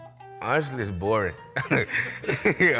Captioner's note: laughs